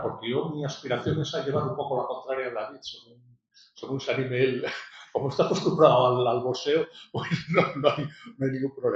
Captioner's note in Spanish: risas